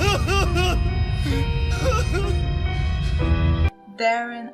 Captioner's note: Darren sobbing